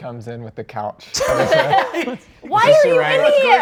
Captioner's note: all laughing